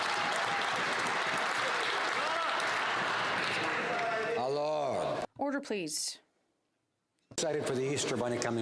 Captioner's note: some Applause